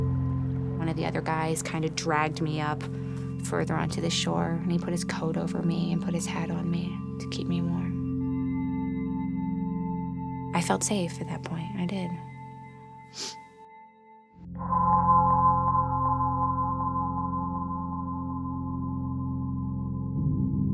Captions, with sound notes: One of the other guys kind of dragged me up further onto the shore, and he put his coat over me, and put his hat on me to keep me warm. I felt safe at that point. I did. [sniffs] [whoosh]